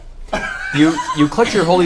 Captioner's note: all laugh